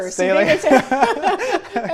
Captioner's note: laughter